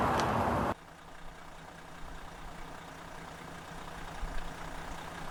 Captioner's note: car engine roaring